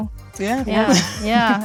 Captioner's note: laughing